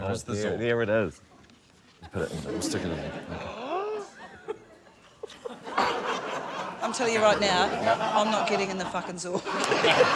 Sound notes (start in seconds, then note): 4.2 gasps; 9.5 laughter, cheering, applause